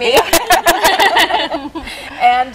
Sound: laughing

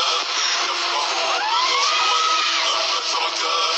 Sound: screams

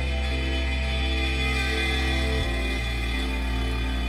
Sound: rattling continues

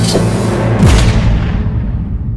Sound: gunshot

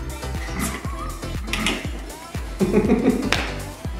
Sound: laughs; slaps legs

